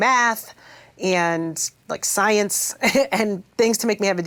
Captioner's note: chuckles